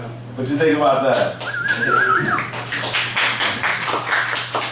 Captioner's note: whistling